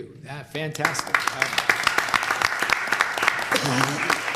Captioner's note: applause